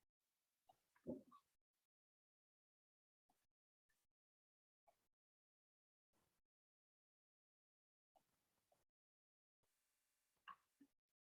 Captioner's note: silence